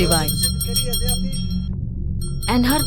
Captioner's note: bell jingling